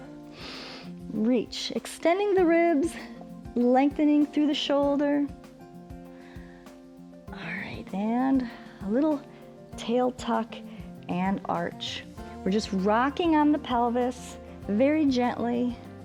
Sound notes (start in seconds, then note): 0.2 inhales